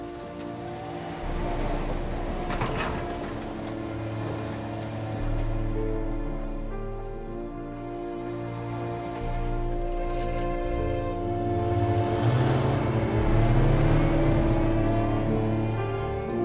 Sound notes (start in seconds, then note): none